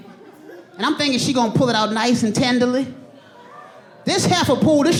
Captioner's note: audience laughing